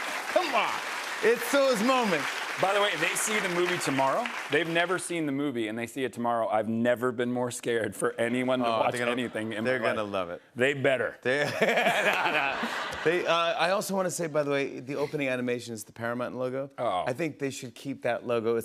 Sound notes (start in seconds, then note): 11.4 laughter